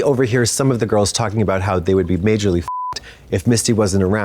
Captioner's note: beep